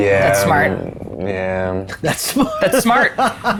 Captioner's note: laughs